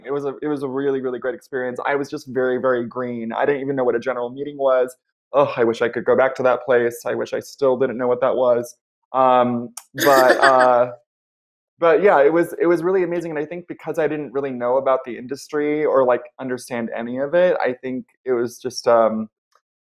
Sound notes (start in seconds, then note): 9.9 laughs